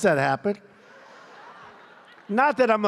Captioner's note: laughter